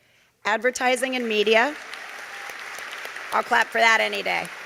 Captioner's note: audience applauding